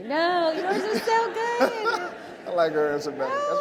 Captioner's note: audience laughs